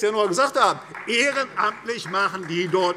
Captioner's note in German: Beifall